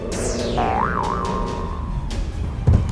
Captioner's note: boing